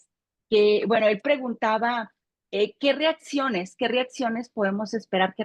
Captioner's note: continues speaking Spanish